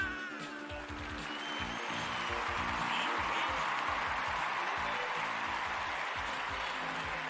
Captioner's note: crowd cheering